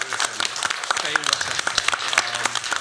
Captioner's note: applause